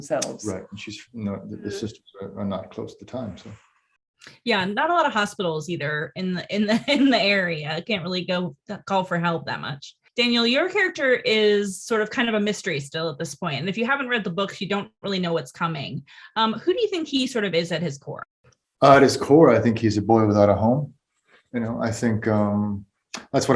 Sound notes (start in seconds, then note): 7.5 laughs